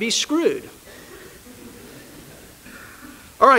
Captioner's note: laughter